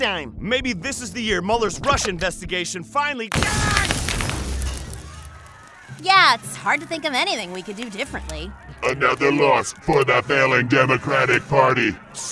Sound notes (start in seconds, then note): 3.3 loud crash